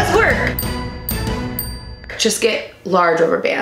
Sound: bell dinging

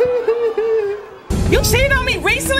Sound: crying

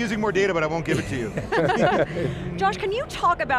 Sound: colleagues laughing

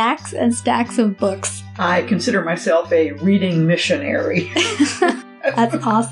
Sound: laughs

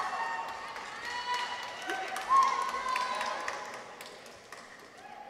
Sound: audience members cheer

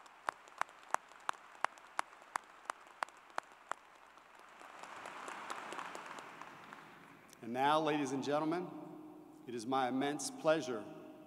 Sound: applause

